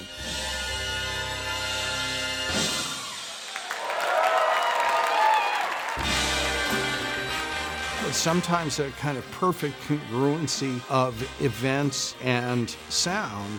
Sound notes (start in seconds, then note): 0.1 jazz music finale; 3.0 cheering